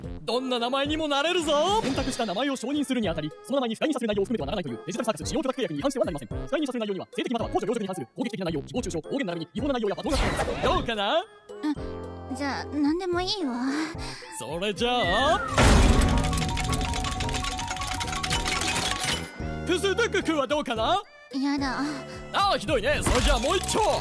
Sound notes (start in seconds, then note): 15.7 wheel dinging; 20.5 stammers phonetic sounds